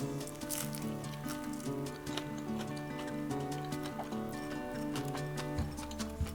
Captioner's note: laugh